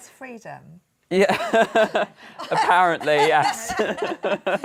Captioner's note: laughter